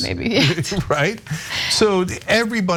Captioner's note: laugh